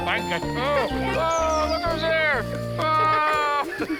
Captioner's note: laughing continues